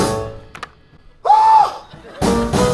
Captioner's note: Doc screams in shock